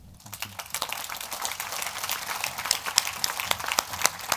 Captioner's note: applause